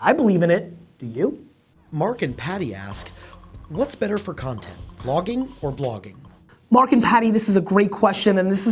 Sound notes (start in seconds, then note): 2.1 voiceover